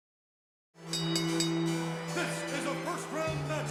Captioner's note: bell dinging